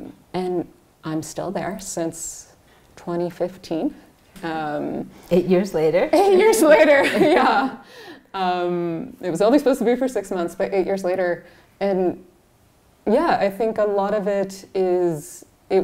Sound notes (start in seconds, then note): 6.6 laughs